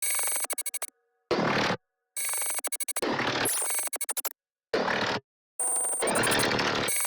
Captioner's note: electronic ringing noises punctuated by bursts of noise